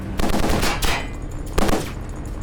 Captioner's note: gunshots